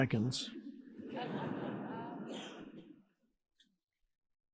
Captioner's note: audience laughing